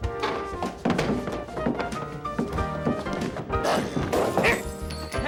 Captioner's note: barrel falls and breaks something